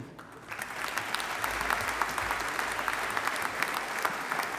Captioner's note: audience applauding